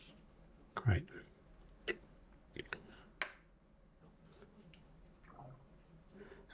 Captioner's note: silence